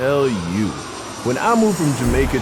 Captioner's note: plane engine